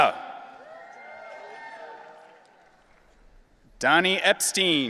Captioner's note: audience cheering